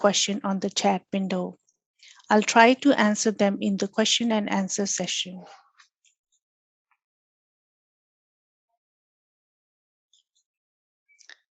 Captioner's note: click